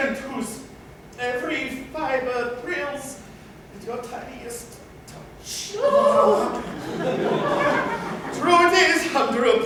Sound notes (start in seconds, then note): 5.3 they both shudder audibly; 6.2 laughter